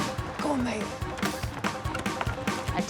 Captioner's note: upbeat music; contraption rattling; upbeat music